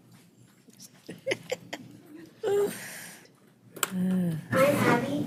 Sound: laughing

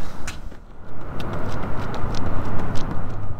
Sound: running Sounds

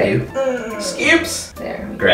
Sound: groans

